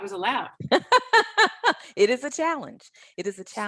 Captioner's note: laughing